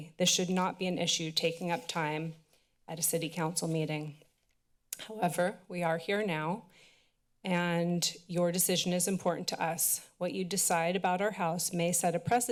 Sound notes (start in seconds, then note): 4.6 tongue clicks